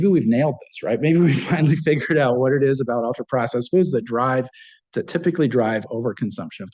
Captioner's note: laughs